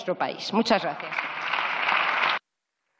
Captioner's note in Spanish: Aplausos